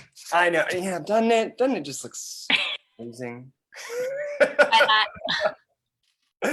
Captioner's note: laughs